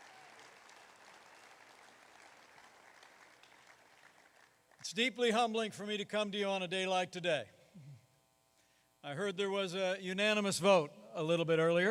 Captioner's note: applause